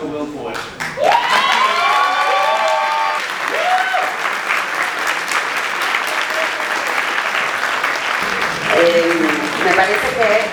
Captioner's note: people applaud and cheer